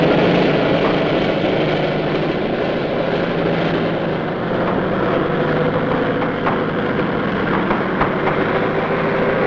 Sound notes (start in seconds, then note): 1.6 tank engine roaring